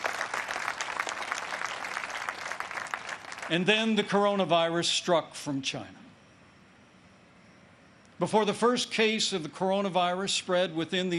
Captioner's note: applause